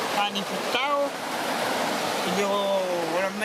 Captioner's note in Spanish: none